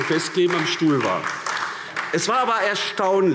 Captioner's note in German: Beifall AfD